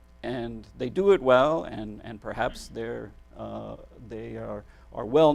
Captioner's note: none